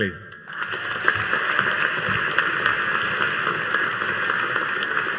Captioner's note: audience applauding